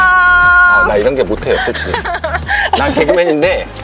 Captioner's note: laugher